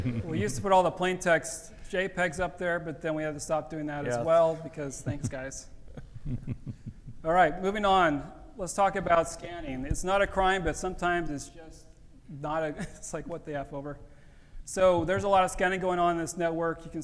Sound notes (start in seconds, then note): 5.8 laughs